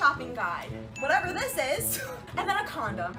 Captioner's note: laughs